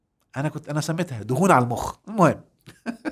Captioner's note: laughs!